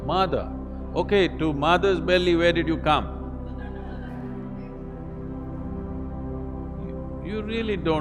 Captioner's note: laughter